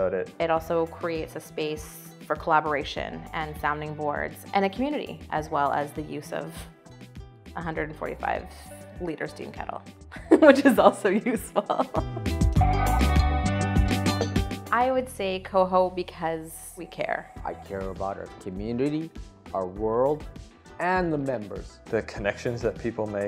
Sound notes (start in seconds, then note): 10.1 laughs charmingly